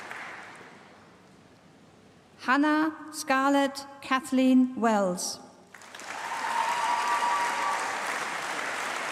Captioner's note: applause; applause